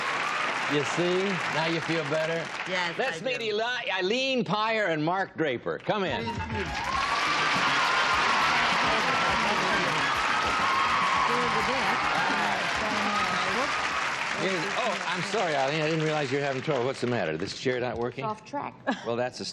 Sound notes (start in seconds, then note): 9.1 applause